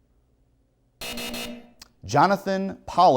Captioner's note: buzzer